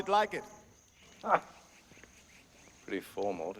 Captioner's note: laughs